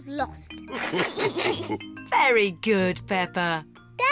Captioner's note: all laugh